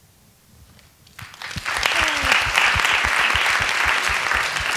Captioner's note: applause